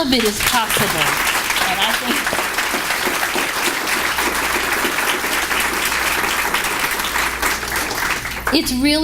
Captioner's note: applause